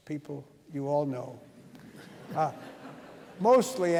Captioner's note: laughter